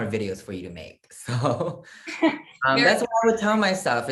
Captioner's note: laugh